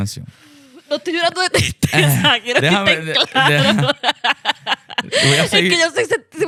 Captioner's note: laughs